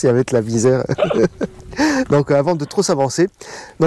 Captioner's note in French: rire